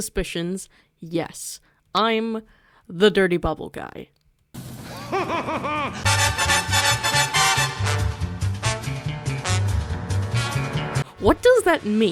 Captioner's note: Dirty Bubble’s laugh